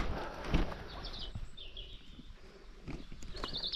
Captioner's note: birds chirping; Tom thudding